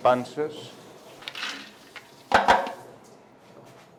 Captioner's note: plate knocks on the trough